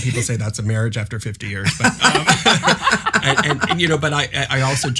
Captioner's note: laughs